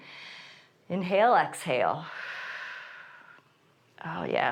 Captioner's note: inhales; exhales